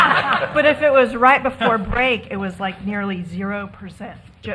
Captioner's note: laughter